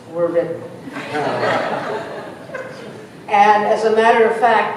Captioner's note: laughter